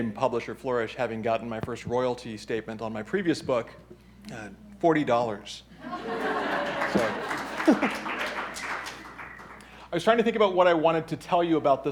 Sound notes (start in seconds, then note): 5.8 audience laughing; 6.0 chuckles; 6.2 applause